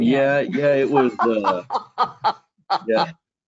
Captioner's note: laughing